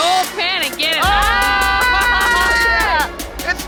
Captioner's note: laughing